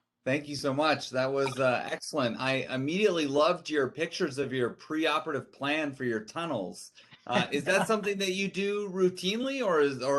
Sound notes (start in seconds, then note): 7.3 laughing